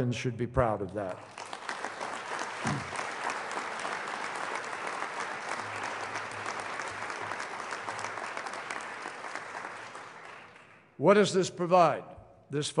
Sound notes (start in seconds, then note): 6.1 applause